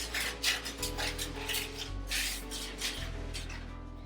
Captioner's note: paper crinkling